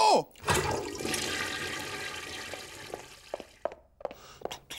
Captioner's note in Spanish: Suena cadena del WC